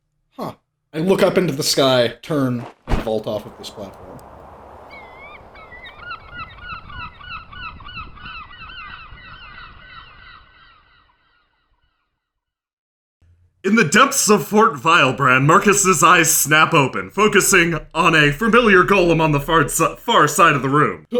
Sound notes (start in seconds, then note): 4.0 rushing air; 5.0 seagulls cawing